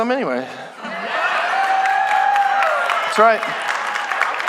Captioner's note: congregation laughing; congregation cheering